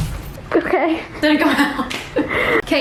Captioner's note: chuckles